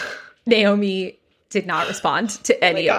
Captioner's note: gasps